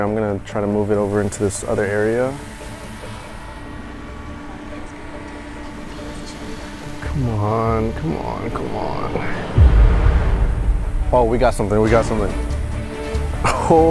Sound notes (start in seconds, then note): 2.6 suspense filled music; 3.4 drone buzzes